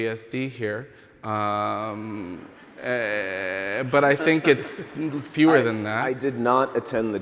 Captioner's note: chuckling from the audience and panel